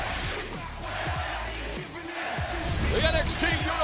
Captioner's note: fans chanting